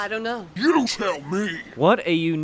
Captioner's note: deep voice